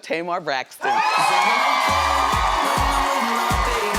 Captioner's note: audience cheering